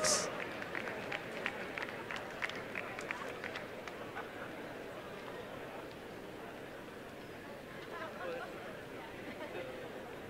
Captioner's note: applause and cheering